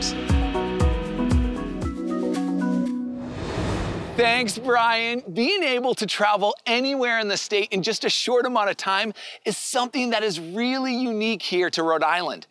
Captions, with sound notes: (bright music) (air whooshing) - Thanks, Brian. Being able to travel anywhere in the state in just a short amount of time is something that is really unique here to Rhode Island.